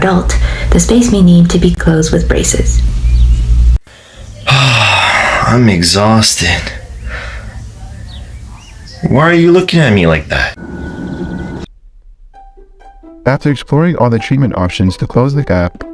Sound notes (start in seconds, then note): 4.4 sigh